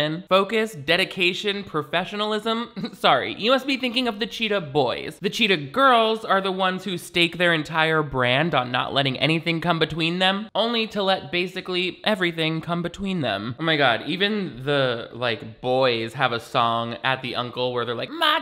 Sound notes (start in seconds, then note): 2.7 chuckles